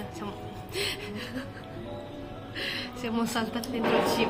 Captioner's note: laughter